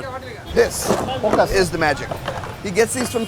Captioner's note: coconuts clattering